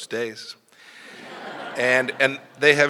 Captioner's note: laughter